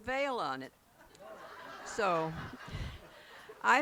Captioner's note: laughs